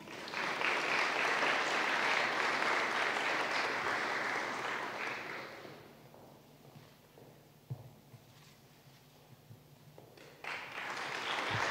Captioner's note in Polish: oklaski